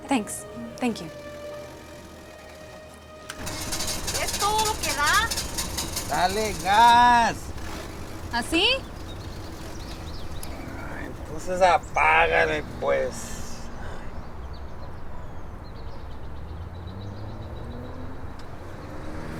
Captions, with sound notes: THANKS. THANK YOU. [ ENGINE SPUTTERING ] [ SPEAKS SPANISH ]